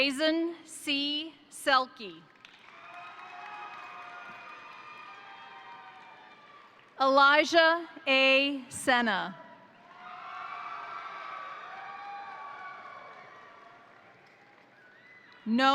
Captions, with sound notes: Jazon C. Selke, (crowd cheering) (crowd applauding) Elijah A. Sena, (crowd cheering) (crowd applauding)